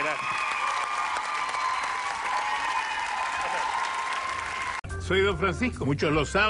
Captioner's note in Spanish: aplausos y vitores